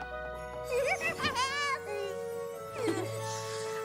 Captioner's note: flflurry gigglgling; contininues gigglil